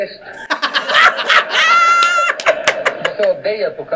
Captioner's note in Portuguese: riem